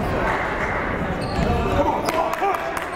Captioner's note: yelling